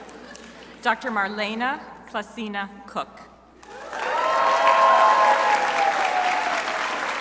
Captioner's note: crowd applauding